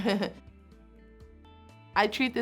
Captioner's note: laugh